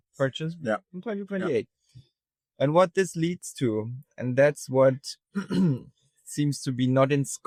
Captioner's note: clears throat